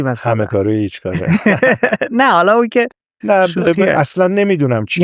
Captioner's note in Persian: خنده